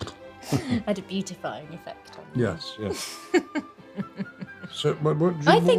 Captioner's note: laughs; laughs